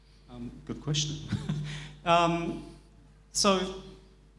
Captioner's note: laughs